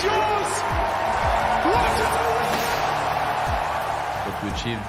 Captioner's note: crowd cheering